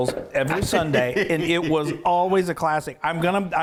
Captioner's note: chuckling